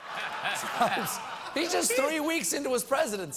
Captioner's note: laughter